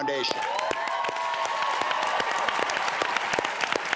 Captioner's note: audience claps